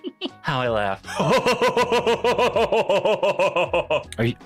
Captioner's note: laughing